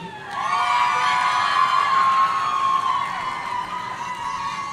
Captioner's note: audience cheering